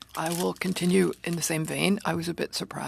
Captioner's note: speaking French